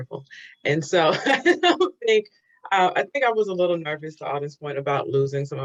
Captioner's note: laughs